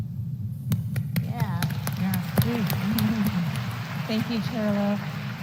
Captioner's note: applause